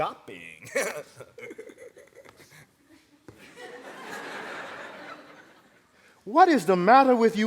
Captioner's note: laughter